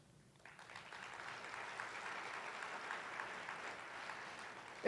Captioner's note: attendees applauding